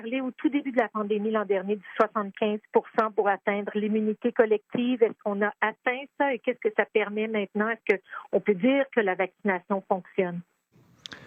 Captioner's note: speaking French